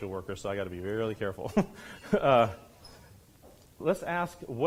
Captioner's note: laughs